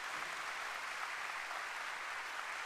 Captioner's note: applause